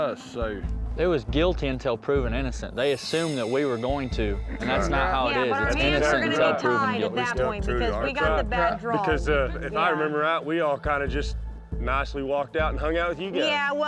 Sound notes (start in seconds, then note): 5.5 overlapping chatter